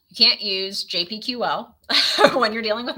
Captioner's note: laughs